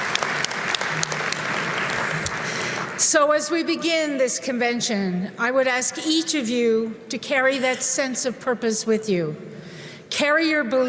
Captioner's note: applause